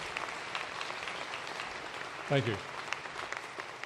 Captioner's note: applause